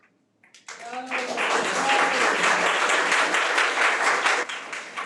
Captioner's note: audience clapping